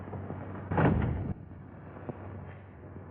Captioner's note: door slams